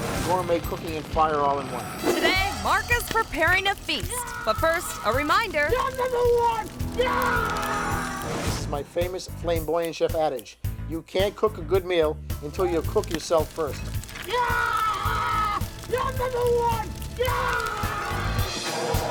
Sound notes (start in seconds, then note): 7.7 screaming; 14.0 screaming; 18.9 fire extinguisher roaring